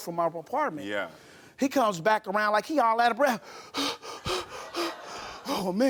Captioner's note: pants; audience laughs